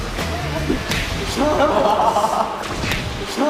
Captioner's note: smack